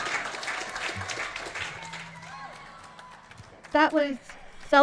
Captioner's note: audience cheering; audience applauding